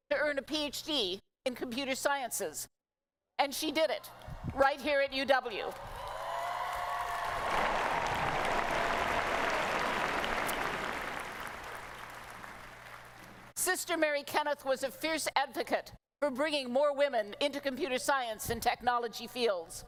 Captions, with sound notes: to earn a PhD in Computer Sciences. And she did it right here at UW. [ Cheering ] Sister Mary Kenneth was a fierce advocate for bringing more women into computer science and technology fields.